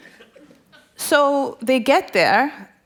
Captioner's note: laughter